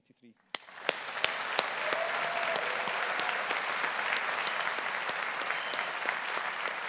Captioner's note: audience applauding; audience cheering